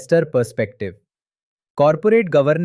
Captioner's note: pause